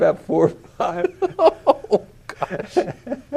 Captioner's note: laughter